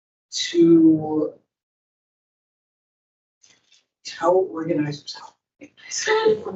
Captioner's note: microphone cuts out